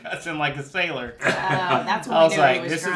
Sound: laughs

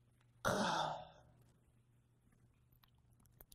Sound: Aaron sighs

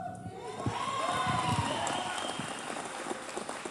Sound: cheers

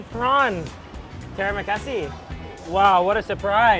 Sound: speaks in foreign language

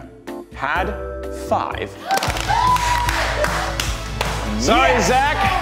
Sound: contestants cheer and clap

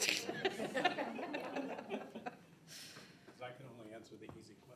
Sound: all laughing

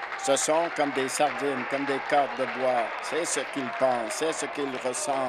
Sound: applause

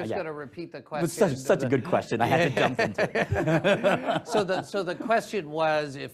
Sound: laughter

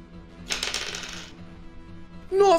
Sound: rolls dice

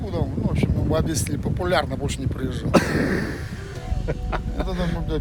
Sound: laughter

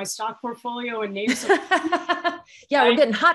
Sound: laughs

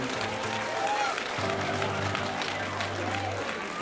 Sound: cheering and applause

